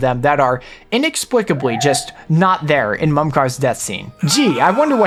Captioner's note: Shulk screaming